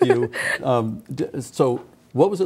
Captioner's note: laughing